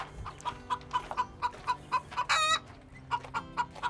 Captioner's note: chicken clucking